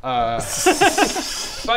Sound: uneasy laughter

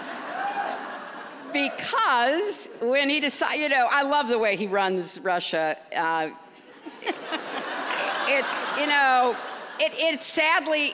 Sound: laughter

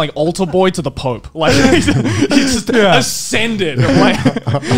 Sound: laughs

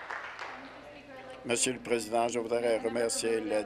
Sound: applause

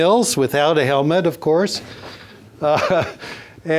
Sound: laughs

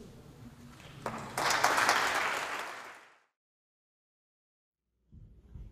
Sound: audience applauds

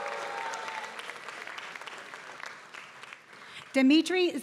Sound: applause

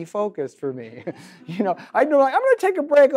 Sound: audience laughs

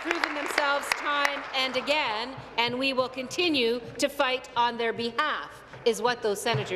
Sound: applause

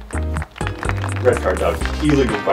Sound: applause

